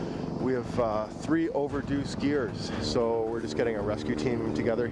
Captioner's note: voiceover